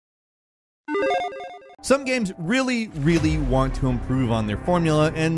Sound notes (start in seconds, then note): 0.9 electronic chiming